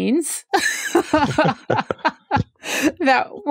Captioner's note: laughs